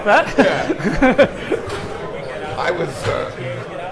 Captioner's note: laughs